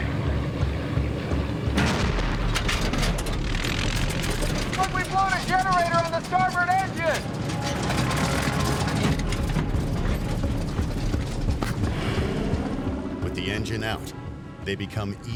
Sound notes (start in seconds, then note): 1.8 explosion; 8.6 clunking